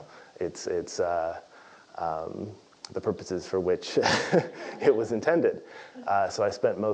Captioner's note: laugh